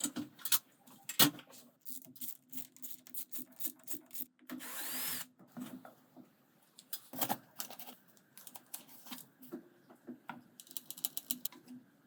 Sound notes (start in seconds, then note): 1.8 screwdriver clicking; 4.6 drill whirring